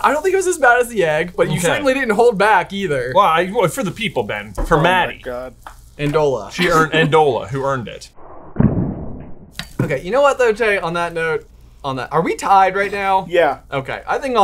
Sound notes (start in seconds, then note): 8.7 tortilla slaps